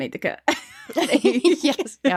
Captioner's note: laughing